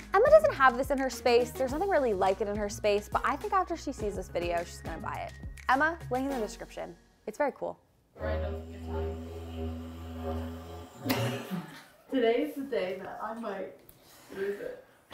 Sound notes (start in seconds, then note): 8.2 humming